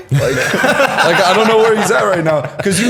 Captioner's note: laughter